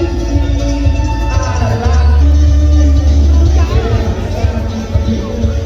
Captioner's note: clap